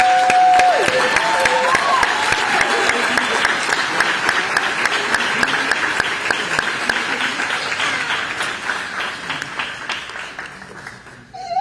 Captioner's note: applause